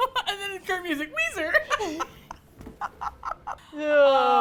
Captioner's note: laughs; laughter